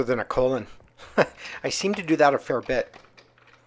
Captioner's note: laughs